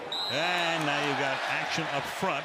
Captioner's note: whistle